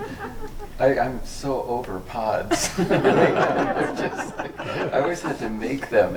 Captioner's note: group laughs; group laughs